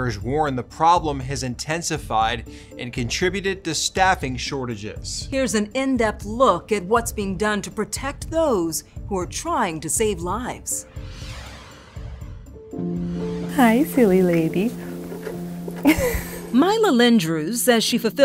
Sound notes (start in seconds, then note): 10.7 soft swishing; 15.8 laughs